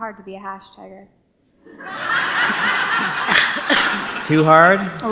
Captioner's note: audience laughs